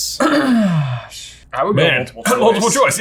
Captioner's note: clears throat